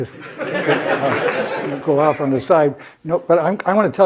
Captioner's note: laugh